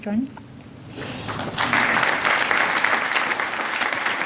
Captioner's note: applause